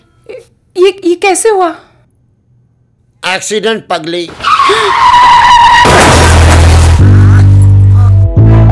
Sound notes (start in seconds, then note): 4.4 Tires screeching